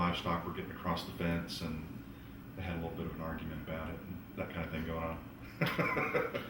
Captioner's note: laughs